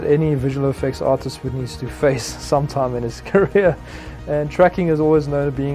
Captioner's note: giggling